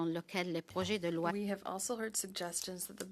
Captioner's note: speaking French